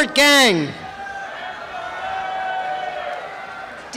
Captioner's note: cheering and applause